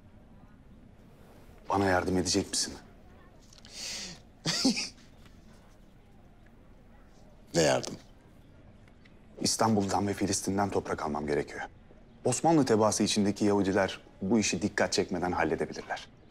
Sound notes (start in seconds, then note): 4.4 laughter